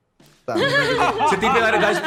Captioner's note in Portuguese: todos riem